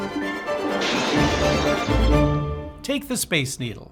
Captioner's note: car exploding